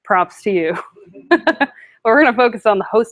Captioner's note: laughter